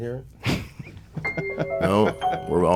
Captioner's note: laughing